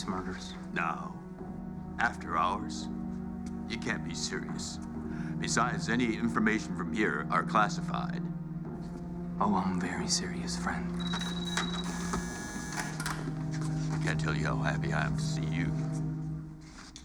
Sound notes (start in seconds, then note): 10.9 door buzzes